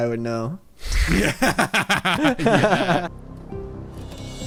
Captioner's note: both laughing